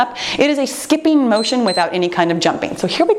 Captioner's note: timer beeps